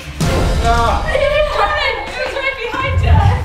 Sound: everyone exclaiming

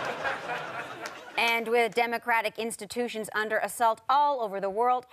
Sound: audience laughter

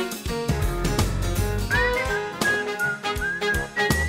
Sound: whistling

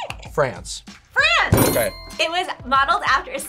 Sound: buzzer squeaks; bell dings

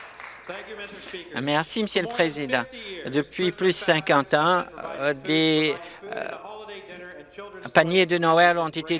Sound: cheers and Applause

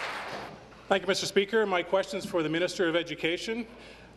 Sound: applause

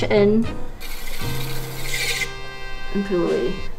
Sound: wheel squeals

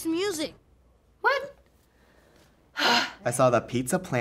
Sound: sighs

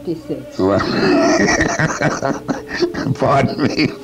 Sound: laughs loudly

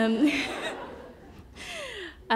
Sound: laughter

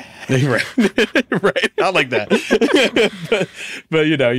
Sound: laughs

